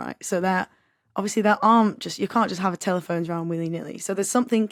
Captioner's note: none